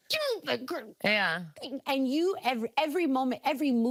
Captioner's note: exclaiming